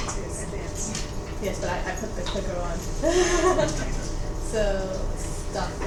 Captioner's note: laughs